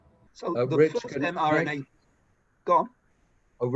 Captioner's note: speaks faintly